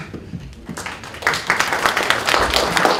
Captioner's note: applause